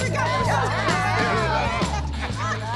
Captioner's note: laughter